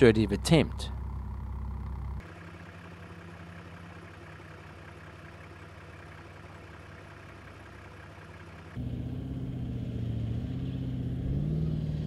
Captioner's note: vehicle sounds